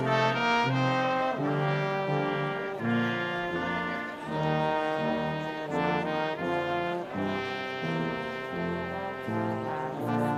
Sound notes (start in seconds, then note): none